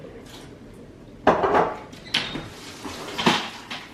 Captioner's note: dishwasher running